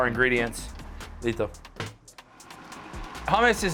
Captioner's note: speaks in Spanish